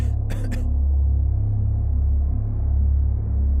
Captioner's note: coughing